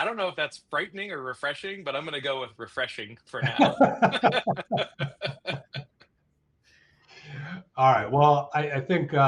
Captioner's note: laughing